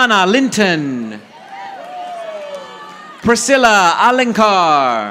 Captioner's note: audience applauding